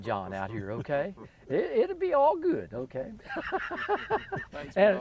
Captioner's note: laughs